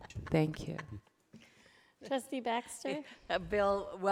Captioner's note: laughing